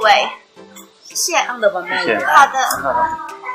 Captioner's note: in mandarin